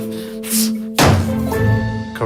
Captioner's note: door slams